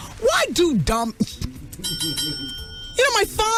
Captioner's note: bell ringing